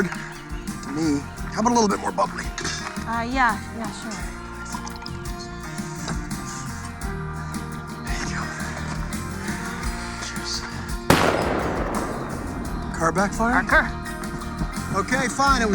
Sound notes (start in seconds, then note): 11.1 distant gunshot